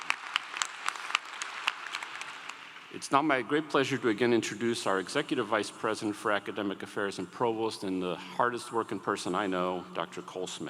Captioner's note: applause